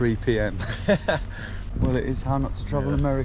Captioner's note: chuckling